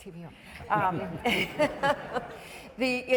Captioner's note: laughing